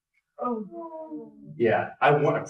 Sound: sighs from audience

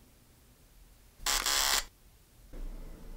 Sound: camera clicks

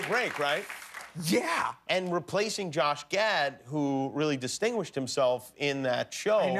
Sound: cheers and applause

